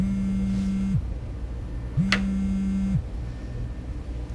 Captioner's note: phone vibrating